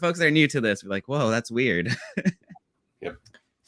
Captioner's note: laughs